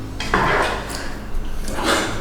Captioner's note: splash